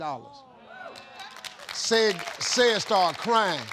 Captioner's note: audience cheers